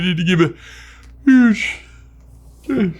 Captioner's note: yawns